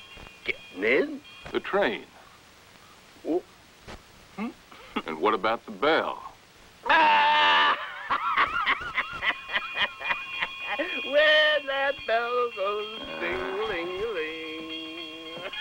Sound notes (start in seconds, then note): 6.9 laughter; 9.6 bell ringing